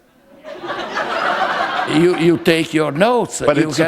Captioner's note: laughter